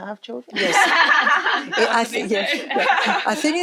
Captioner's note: all laughing